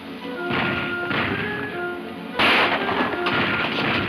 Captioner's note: gunshots banging